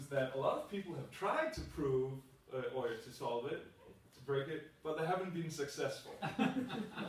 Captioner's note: laughter